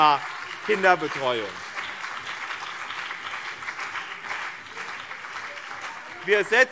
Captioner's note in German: Beifall BÜNDNIS 90/DIE GRÜNEN und CDU - Zurufe SPD